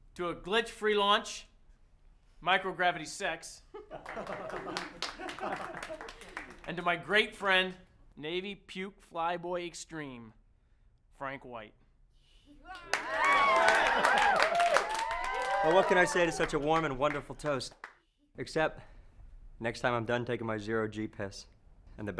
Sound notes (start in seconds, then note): 3.7 all chuckling; 12.6 all cheering